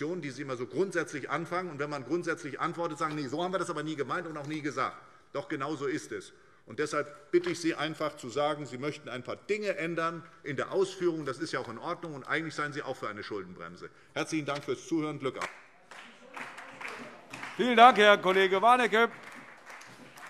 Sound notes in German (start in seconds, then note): 15.3 Beifall SPD